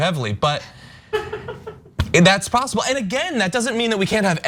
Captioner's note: laugh